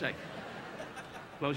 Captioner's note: audience laughing